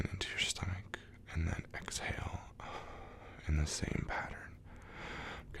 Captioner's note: exhale